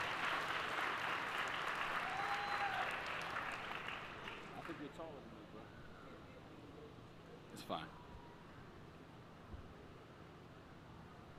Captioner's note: applause